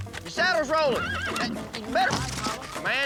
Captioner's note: horse neighs; thud